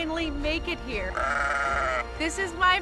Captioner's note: bleats